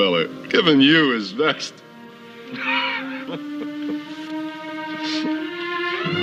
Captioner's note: laughing